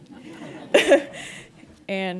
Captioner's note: audience laughing